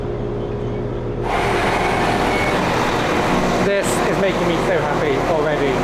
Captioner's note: train engine